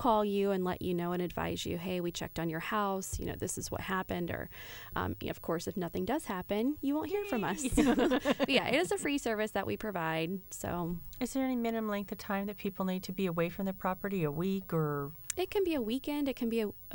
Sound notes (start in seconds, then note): 7.4 laughter